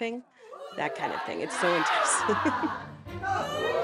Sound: chuckles

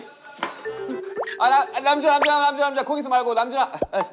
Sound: hurried

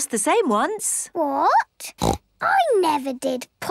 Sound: snorts

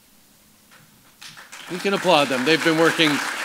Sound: applause

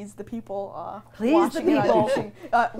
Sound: everyone laughing

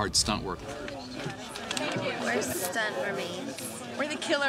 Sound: indistinct chattering

